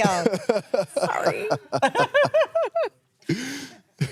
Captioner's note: Oba laughs